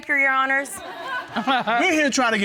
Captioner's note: audience chuckles; judge chuckling